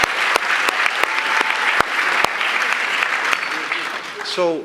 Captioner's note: applause